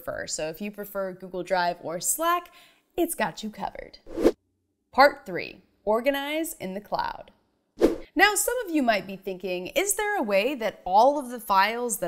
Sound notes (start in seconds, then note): 4.0 animation whooshes; 7.8 animation whooshes